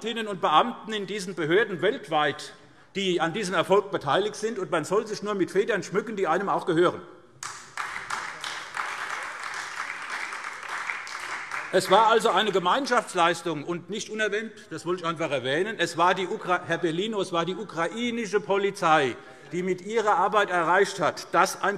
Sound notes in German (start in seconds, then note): 7.4 Beifall SPD